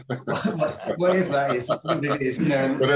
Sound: laughing

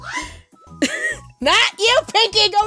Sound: laughs

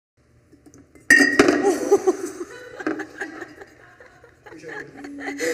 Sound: glass clanking; laughing

